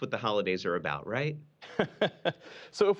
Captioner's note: laughter